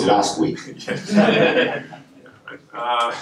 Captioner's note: laughter